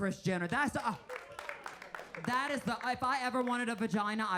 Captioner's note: audience clapping